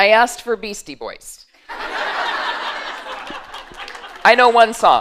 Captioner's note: laughter